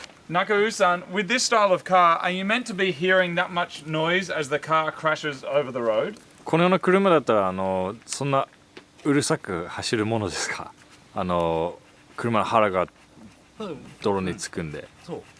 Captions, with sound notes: Nakaru-san, with this style of car, are you meant to be hearing that much noise as the car crashes over the road? [speaking Japanese]